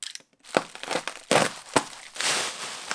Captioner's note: cutting bubble wrap open; box cutter opens; removing outer bubble wrap